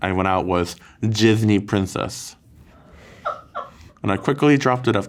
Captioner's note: crew laughing